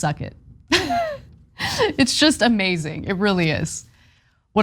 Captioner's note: laugh